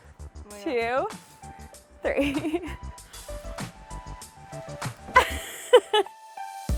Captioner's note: laughs